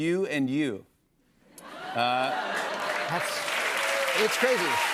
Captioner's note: cheers and applause